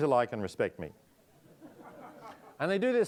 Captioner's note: audience laughing